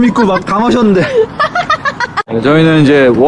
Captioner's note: laughs